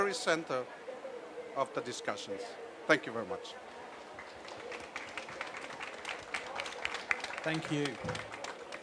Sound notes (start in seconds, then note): 3.9 applause